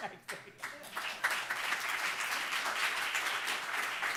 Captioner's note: audience clapping